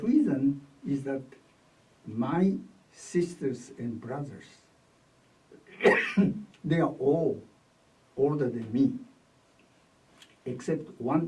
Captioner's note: coughs